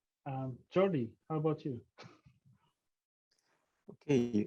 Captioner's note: chuckles